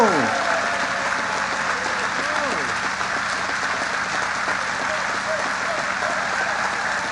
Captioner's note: applause